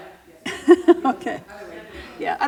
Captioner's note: laughs